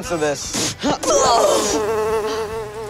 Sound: gasping

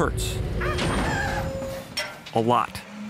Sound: tires screeching

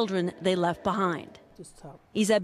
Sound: speaking French

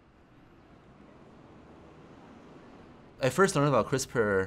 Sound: cars driving

